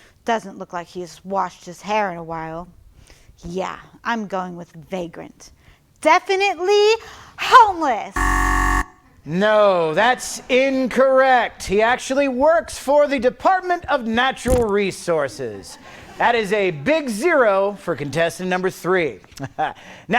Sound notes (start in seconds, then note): 8.1 alarm beeps